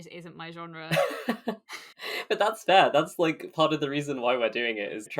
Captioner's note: laughs